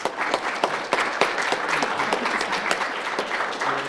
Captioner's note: applause